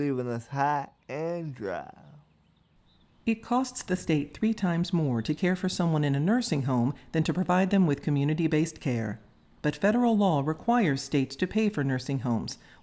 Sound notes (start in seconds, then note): none